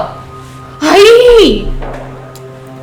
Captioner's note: frustrated in Spanish